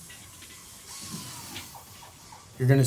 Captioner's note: machinery whirring